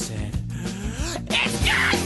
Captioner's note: deep breath